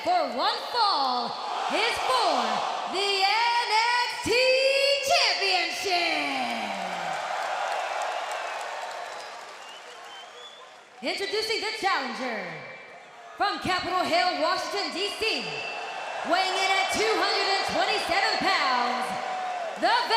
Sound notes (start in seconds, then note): 6.4 crowd cheering